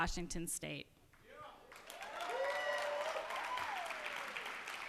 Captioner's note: cheers and applause